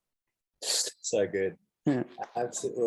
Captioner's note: chuckles